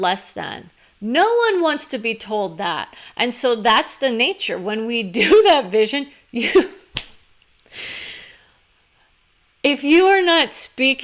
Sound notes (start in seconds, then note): 6.4 laughter